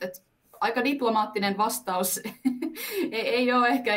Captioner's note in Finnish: naurahtaa